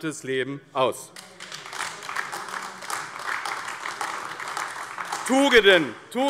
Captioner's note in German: Beifall AfD